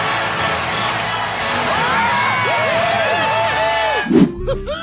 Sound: cheering

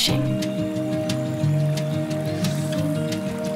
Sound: water flowing

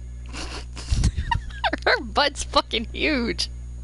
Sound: snorts and laughs

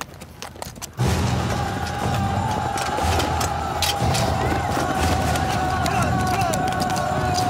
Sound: dramatic music; soldiers yelling

